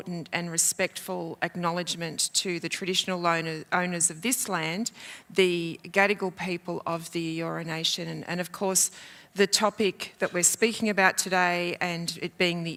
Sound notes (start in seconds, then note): none